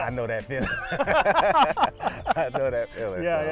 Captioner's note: both laugh